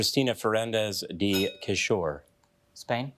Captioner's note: bell dinging